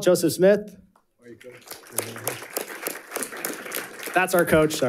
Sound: audience applauding

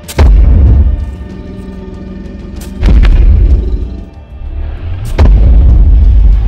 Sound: loud stomping sound

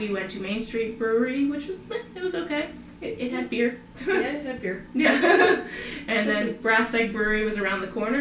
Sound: laughter

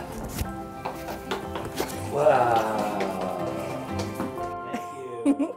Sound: feet clacking; laughing

